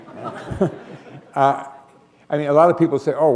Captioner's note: laughter